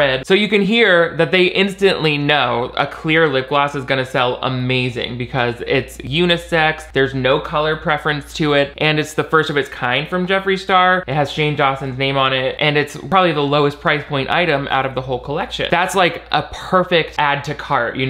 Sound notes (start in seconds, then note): none